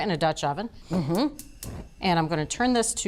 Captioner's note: burner clicking